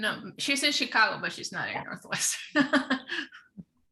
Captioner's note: laughing